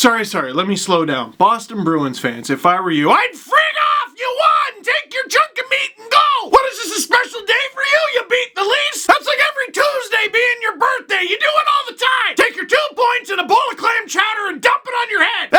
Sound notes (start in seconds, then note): 2.9 shouting